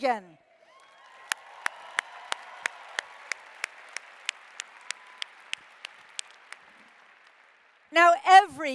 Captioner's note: applause